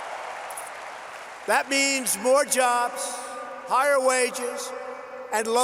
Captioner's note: applause